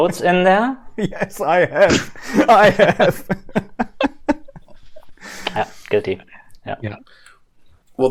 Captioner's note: laughter